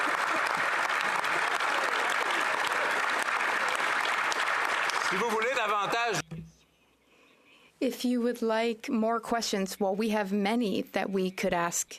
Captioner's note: some Applause